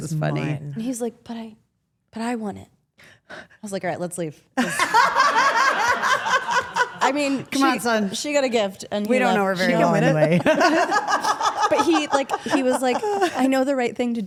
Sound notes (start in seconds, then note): 4.6 Steph and Rhea laugh; 9.9 Steph laughs